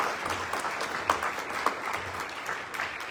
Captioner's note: applause